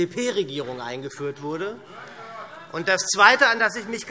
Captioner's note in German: Zurufe SPD: Hört, hört!